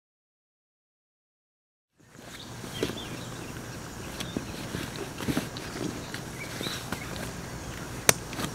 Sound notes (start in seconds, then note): 2.0 birds chirping